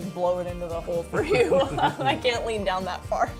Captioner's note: laughter